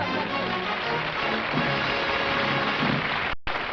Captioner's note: applause